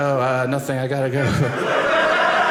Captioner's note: audience laughing